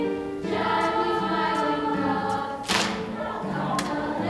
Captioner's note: clapping